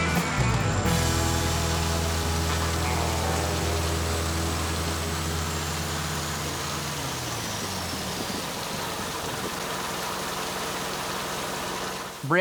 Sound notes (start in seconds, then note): 0.0 engine running; 0.9 water gushing; 7.2 engine stops; 8.2 water gushing